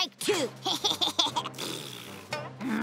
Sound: laughing

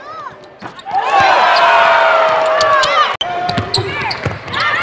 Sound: cheering and applause

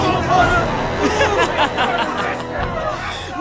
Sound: crowd exasperated; sinister laughter

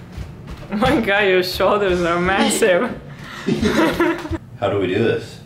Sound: both Laughing

